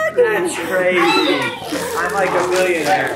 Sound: group chuckles and chatters

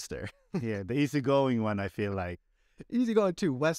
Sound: laughter

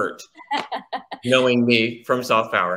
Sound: laughs

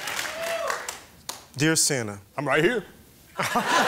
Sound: Santa voice

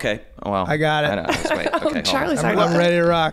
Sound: laughing

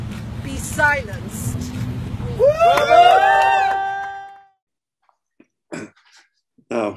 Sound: cheering from crowd

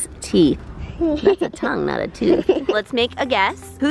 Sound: laughter

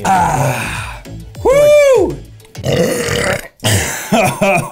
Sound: burps

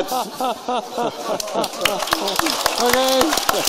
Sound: applause

